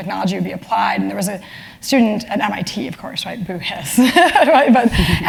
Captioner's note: laugh